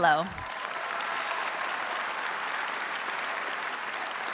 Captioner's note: audience cheers